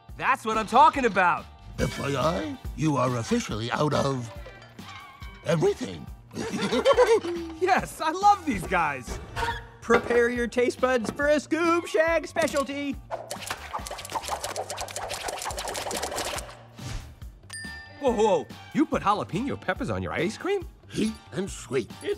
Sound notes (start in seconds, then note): 6.3 both laugh; 13.1 popping noises